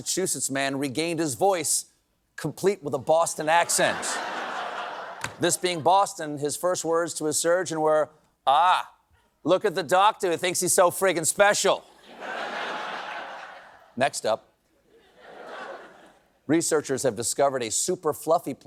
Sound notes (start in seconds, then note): 9.9 in a boston accent